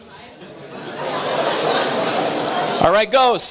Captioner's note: audience laughter